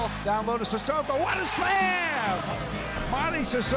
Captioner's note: crowd cheering